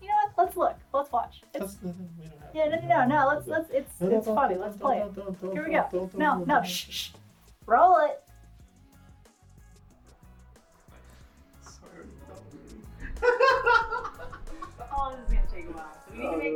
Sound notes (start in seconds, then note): 1.8 mumbles; 4.7 speaking gibberish; 11.7 laughs